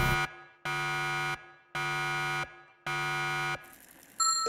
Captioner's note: alarms; ding!